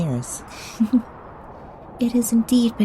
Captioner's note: soft giggle